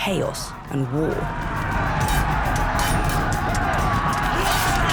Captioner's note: gritos